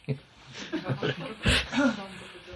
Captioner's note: laughs